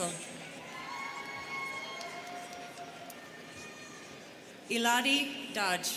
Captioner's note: students cheering